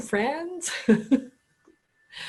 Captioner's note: laughter